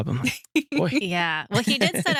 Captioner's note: laughs